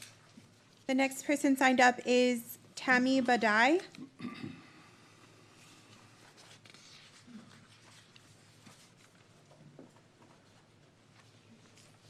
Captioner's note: clears throat